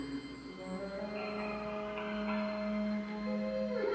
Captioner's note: ghostly laugh echoing